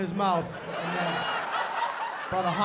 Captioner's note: laughter